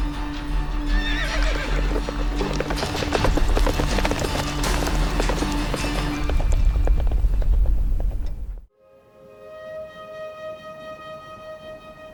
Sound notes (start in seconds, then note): 0.9 horse neighs; 3.0 horses trotting away